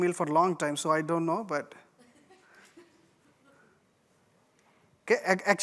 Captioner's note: laughter